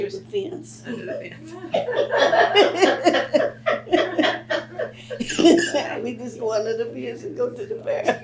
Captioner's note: laughter